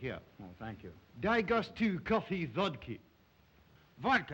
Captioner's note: Zaroff speaks Russian